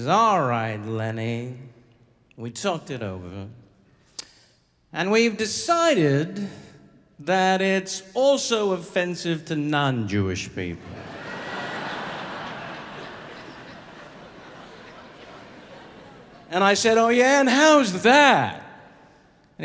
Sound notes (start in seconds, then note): 10.8 audience laughing